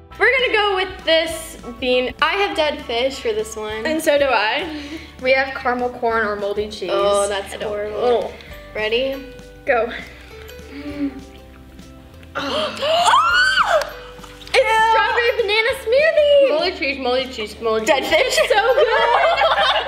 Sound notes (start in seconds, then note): 12.4 screaming